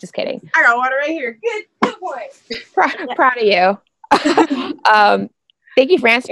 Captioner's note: laughs